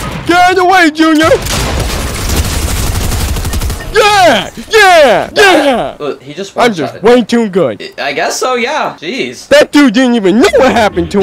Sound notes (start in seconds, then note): 0.0 multiple guns firing